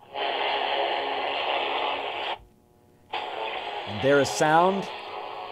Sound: radio static playing

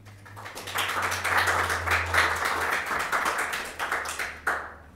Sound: audience clapping

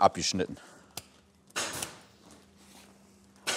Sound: stapling in the background

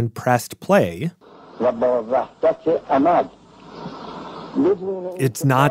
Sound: Speaking Farsi

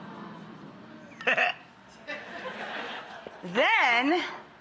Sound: Rachel laughs

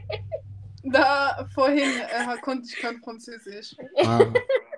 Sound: German

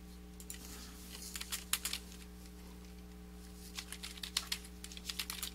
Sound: keyboard clacking

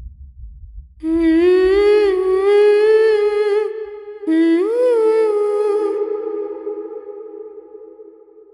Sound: 𝅘𝅥𝅮 Humming 𝅘𝅥𝅮

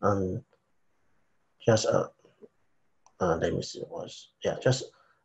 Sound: speaking faintly

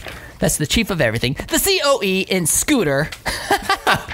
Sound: laughter

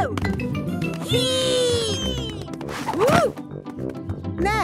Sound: thumps

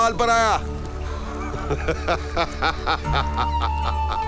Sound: laughs

